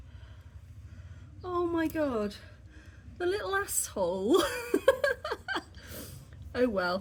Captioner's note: laughing